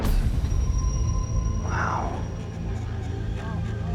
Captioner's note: exhales